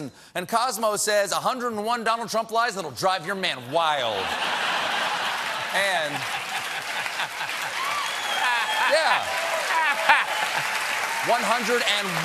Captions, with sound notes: MORE BRAZEN," AND "COSMO" SAYS, "101 DONALD TRUMP LIES THAT WILL DRIVE YOUR MAN WILD." ( LAUGHTER ) ( APPLAUSE ) YEAH!